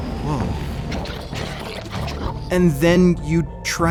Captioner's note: 2Bells growling